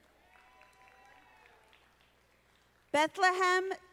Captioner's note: audience applauding